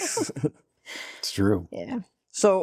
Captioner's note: laughing